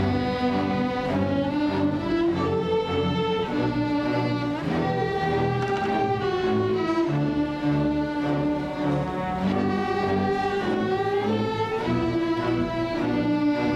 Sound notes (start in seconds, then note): none